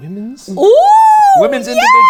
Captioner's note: exclaiming